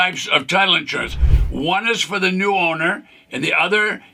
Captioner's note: screen whooshes